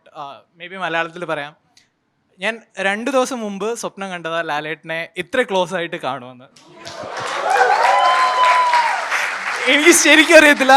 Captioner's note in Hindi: तालियां